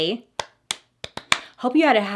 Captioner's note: clapping